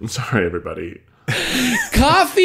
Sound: laughing

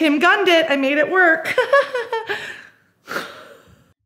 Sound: laughs

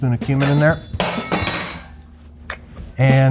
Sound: spoon clanks

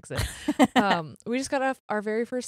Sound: laughs

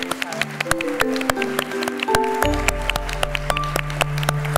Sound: applause

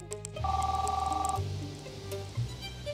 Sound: phone rings

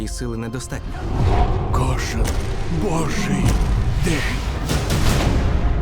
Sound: creature growling

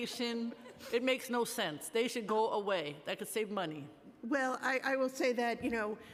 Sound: laughter

